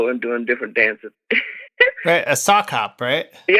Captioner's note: laughter